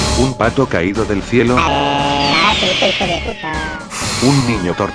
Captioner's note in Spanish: gritos